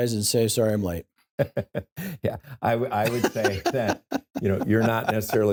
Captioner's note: laughs